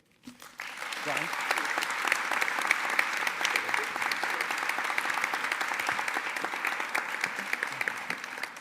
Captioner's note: applause